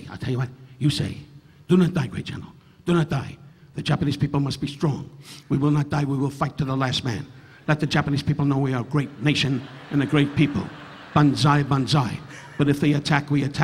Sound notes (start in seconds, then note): 8.4 audience laughing; 11.9 chuckling